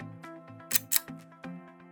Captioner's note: click